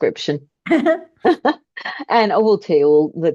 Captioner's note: both laugh